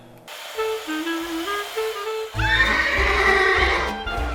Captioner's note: horse neighing